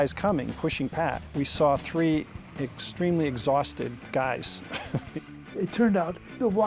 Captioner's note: chuckles